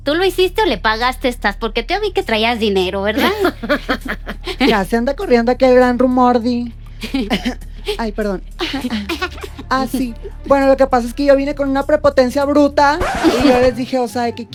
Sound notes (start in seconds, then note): 4.8 posh girl accent